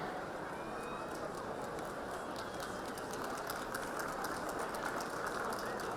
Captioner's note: audience chattering and applaud